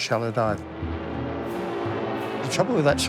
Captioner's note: jet engine roaring